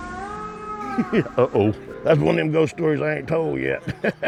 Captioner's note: animal calling; chuckles; laughs